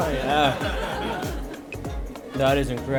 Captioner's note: crowd laughing